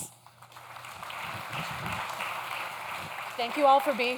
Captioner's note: audience claps